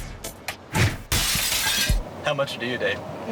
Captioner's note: glass shatters